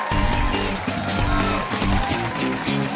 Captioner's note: cheers and applause